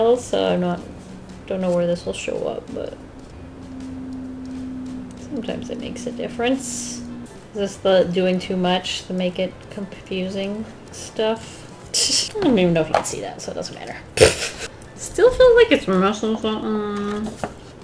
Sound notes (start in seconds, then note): 14.2 laughs